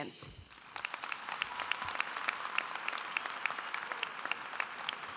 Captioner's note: audience applauding